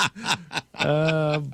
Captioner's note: laughing